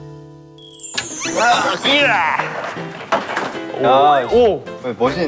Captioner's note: groaning